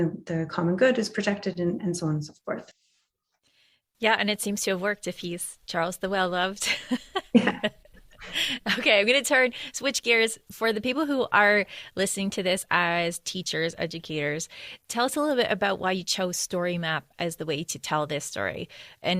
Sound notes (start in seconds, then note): 6.6 laughter